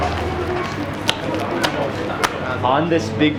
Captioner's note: dough slapping